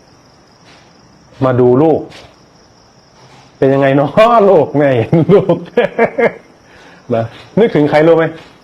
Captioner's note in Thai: เสียงหัวเราะ